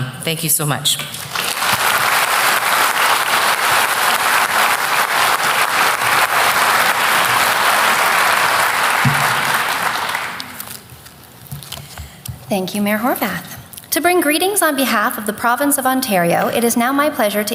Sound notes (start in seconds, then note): 1.1 applause